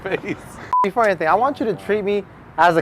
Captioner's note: chuckling; scene beeps